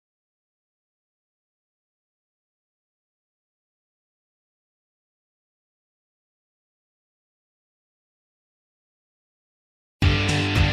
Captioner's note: silence